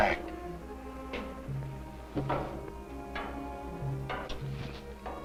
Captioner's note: footsteps approaching